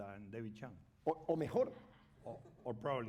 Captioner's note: speaking spanish